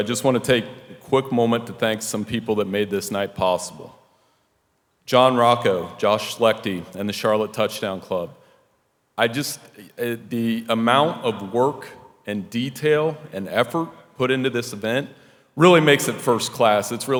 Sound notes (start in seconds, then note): none